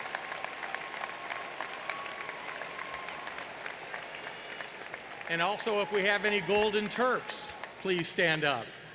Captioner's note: applause